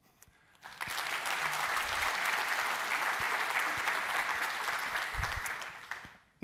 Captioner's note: applause